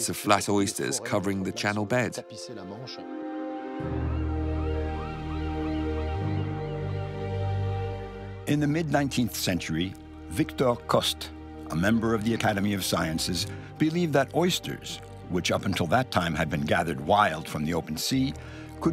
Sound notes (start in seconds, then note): 2.7 soft music; 3.8 gulls squawking